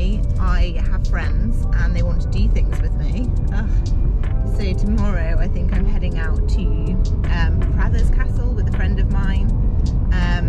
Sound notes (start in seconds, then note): 2.7 ehh